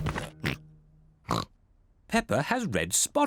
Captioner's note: oinks